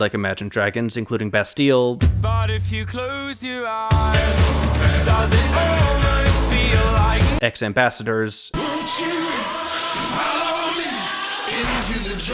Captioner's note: bang